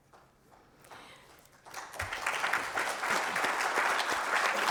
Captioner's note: applause